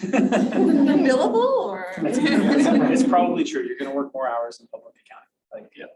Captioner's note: audience laughter